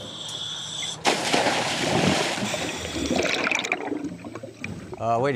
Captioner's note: water splashing; water gurgling